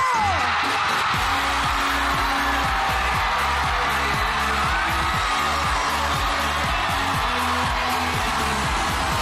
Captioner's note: audience cheering; upbeat music playing